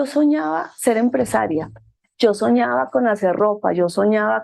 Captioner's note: speaking in foreign language